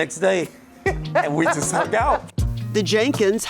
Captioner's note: laughs